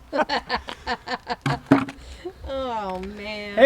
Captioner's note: laughs loudly